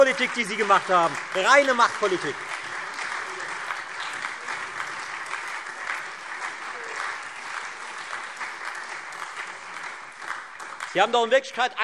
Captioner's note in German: Beifall Freie Demokraten und SPD